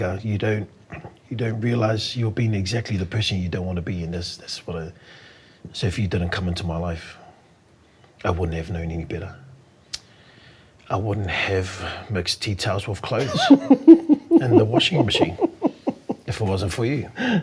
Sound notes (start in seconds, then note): 13.1 laughing